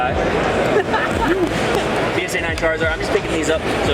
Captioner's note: laughing